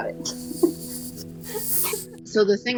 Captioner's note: laughter